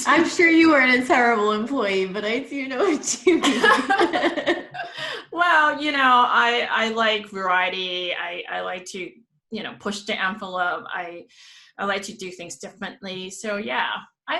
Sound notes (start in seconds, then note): 2.8 they laugh